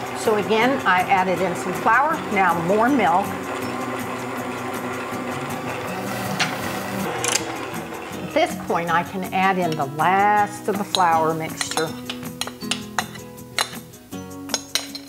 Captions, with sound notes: So again I added in some flour, now more milk. (machine rumbling) This point I can add in the last of the flour mixture. (utensils cackling)